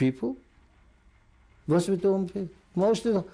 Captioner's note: non-english